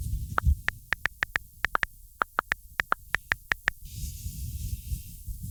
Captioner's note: tapping